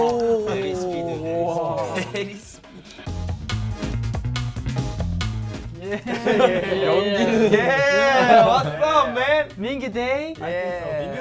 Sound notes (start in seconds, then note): 0.0 members exclaim in awe; 3.3 upbeat music; 5.7 laughs